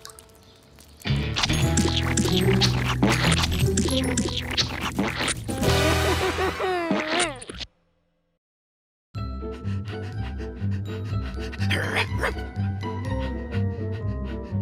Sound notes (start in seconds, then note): 5.9 sobbing; 9.3 panting; 11.7 barks